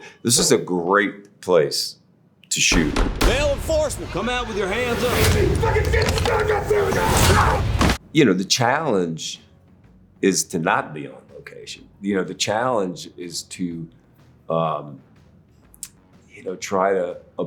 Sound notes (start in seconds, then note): 5.4 man screaming